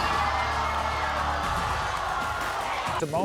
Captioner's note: crowd boos